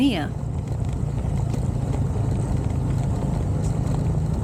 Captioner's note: engine noise